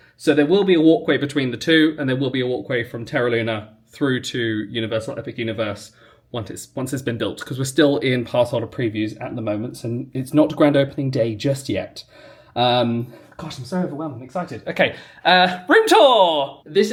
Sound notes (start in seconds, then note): none